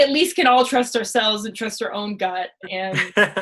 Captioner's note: laughs